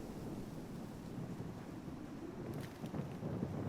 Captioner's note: wind blowing